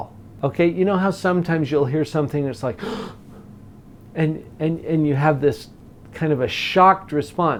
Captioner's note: gasps